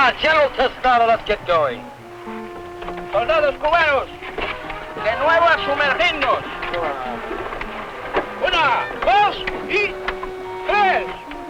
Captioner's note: speaking spanish